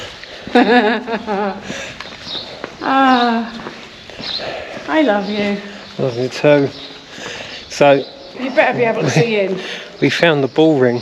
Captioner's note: laughs